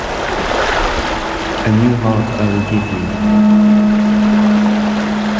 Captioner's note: distorted noises